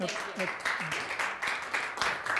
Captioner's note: audience applauding